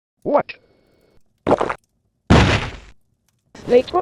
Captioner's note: slam